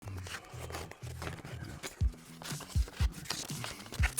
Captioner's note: paper rustling